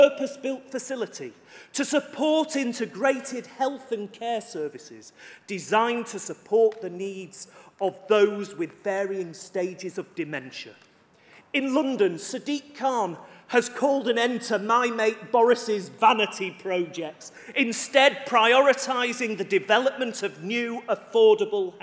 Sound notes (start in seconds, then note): none